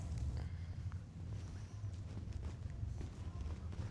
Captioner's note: people walking